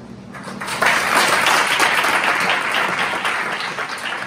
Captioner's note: audience claps